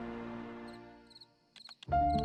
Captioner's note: crickets chirping; suspenseful piano music